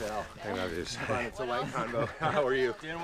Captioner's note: laughs